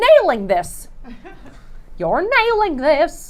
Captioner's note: laughing